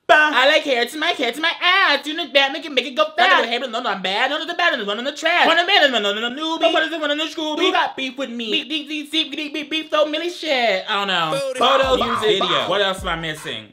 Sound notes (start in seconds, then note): 5.7 vocalizes